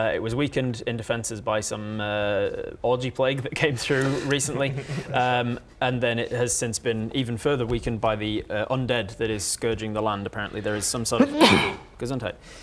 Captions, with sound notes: it was weakened in defences by some er orgy plague that came through recently *reluctant snickering* and then it has since been even further weakened by the undead that is scourging the land apparently there is some sort of *ACHOO!* gesundheit